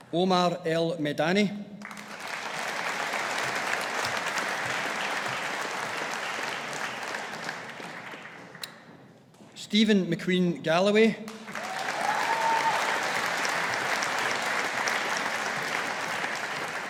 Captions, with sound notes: Omar El-Medany. (AUDIENCE APPLAUDING) Steven McQueen Galloway. (AUDIENCE APPLAUDING)